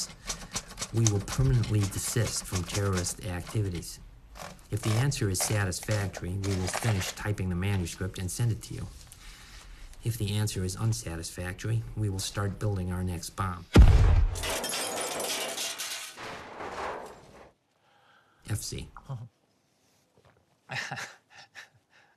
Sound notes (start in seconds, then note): 13.8 explosion rumbling; 14.4 objects clattering; 20.6 chuckling